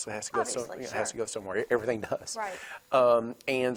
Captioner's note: laughs